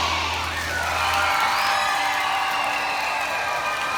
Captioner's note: cheering